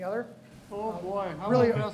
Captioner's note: laughs